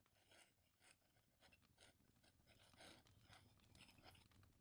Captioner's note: sounds of a quill scratching on parchment